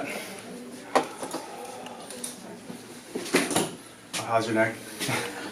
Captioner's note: deep breathing